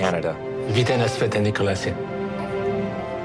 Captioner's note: Speaks Czech